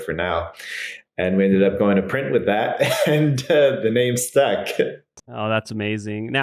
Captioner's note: laughs